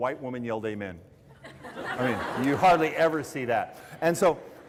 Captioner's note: laughter